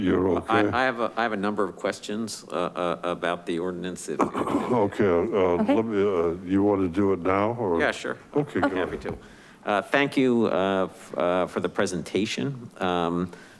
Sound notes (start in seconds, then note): 4.2 clears throat